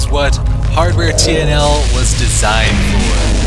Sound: monster roaring and wailing; gunfire and pig noises

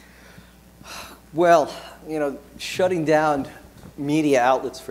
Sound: sighs

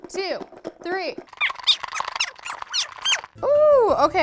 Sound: voice squeaking

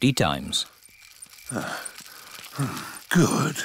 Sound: panting

